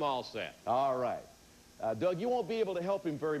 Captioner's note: none